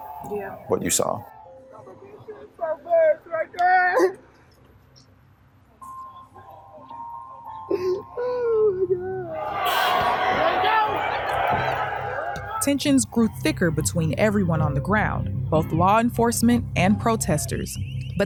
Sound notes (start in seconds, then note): 1.7 people sobbing; 9.3 protestors yelling